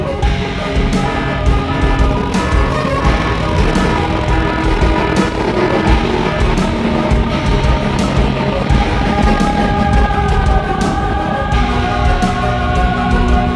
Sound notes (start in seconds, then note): 1.4 sound: Anti-sleep alarm blaring in the background